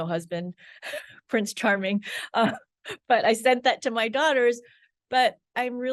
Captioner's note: laughs; laughs